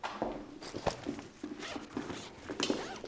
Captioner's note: zipping open bag